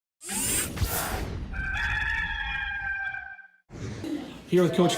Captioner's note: rooster crows